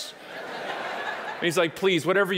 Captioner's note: audience laughing